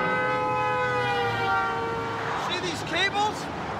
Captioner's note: <i> honking</i>